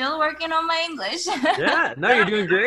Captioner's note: laughs